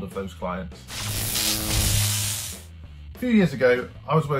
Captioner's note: electric buzz